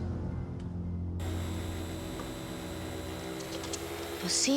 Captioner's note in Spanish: ruido de la aspiradora